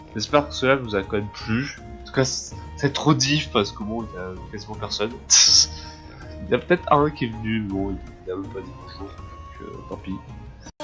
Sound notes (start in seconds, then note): 5.2 snake noises